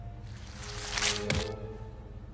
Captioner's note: fish sloshing; thudding